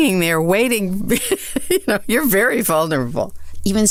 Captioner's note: laughs